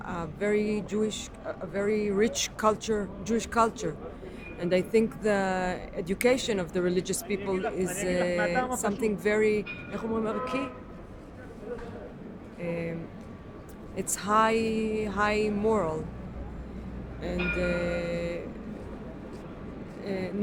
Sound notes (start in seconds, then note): 10.2 speaking in foreign language